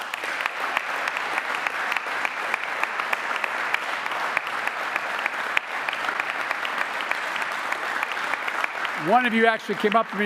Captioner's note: applause